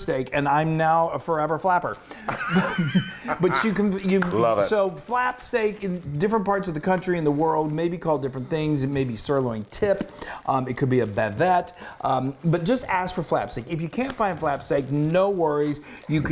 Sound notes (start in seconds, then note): 2.2 laughter